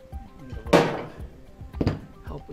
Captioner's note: loud bang